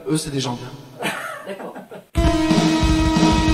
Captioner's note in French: rires